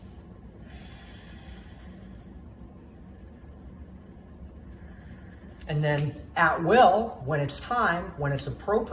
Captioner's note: deep breath